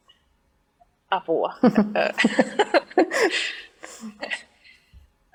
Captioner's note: laughing